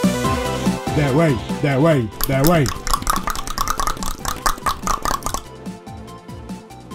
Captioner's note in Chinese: 彈舌